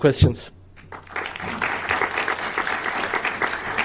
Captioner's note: applause